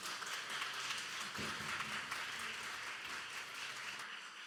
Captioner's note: audience applauding